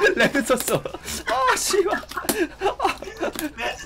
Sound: wheeze

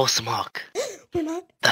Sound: Mark gasps

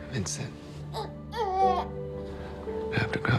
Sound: baby cries

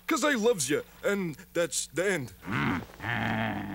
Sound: growls

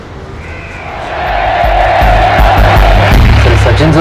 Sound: Crowd cheering Sachin

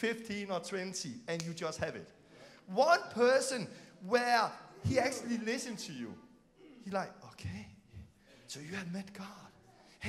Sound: click

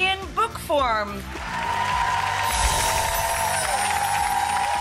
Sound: audience cheering

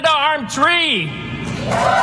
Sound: applause

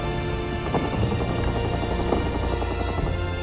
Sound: dramatic music; guns firing; dramatic music

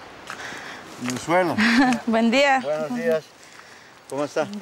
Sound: Spanish spoken audio

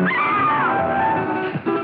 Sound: scream

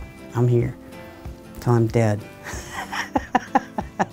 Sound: laughs

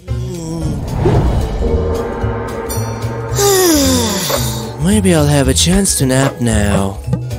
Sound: sighing loudly

